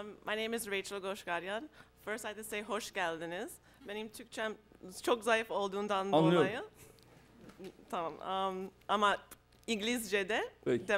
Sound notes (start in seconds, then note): 3.6 non-english speech